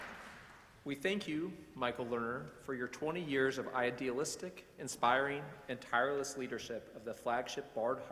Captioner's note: applause